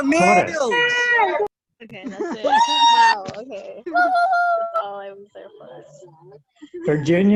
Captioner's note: cheering